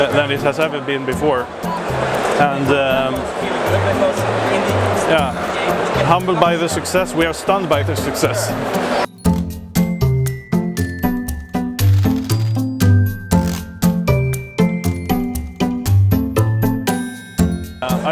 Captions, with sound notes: then it has ever been before. (crowd noises) Yeah... Humbled by the success; we are stunned by the success. (upbeat music) (upbeat music) (upbeat music)